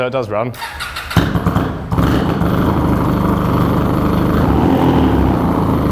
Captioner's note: engine revving